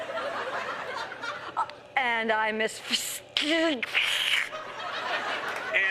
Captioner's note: laughter; imitates static